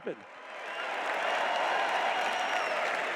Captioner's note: cheers